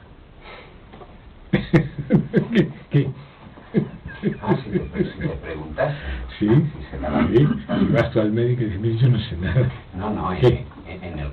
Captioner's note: laughs